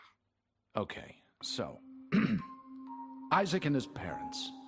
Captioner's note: ahem